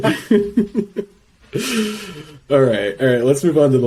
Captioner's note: laughs